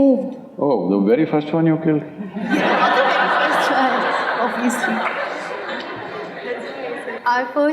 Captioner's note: laughter